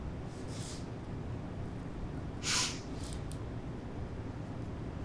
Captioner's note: sniffling